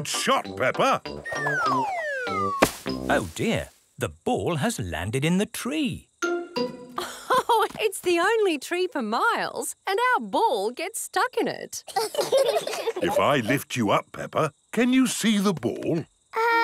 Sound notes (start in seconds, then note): 7.0 laughs; 11.8 children laugh